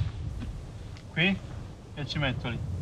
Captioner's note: in Italian